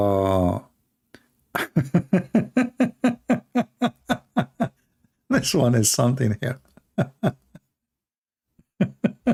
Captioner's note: Ketawa